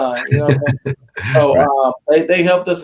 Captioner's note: laughing